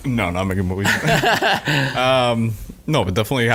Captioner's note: laughing